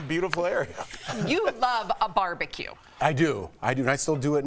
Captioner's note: laughter